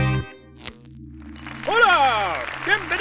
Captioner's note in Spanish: Aplausos